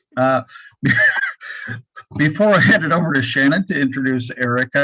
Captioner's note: laughs